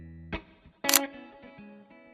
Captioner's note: photo click